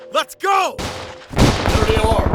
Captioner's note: gunfire and shouting